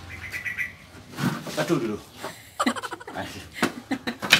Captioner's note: laughs